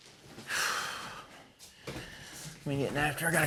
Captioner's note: sighs